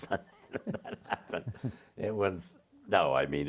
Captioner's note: both chuckling